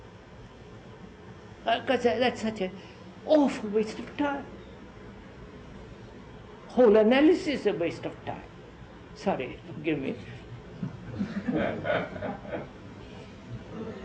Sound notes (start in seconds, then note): 10.8 laughter